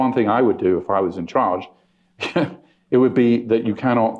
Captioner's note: chuckles